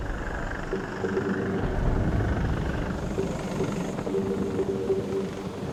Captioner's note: helicopter propellers whirling